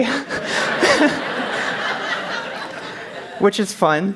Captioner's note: laughter